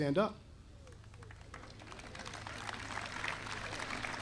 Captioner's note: audience applauding